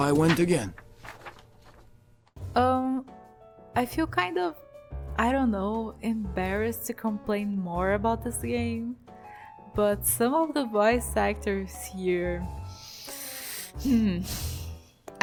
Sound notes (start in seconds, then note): 11.8 sigh